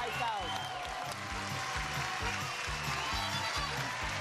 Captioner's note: crowd cheers